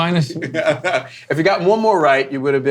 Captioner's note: laughing